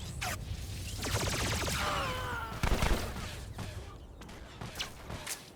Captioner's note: gunshots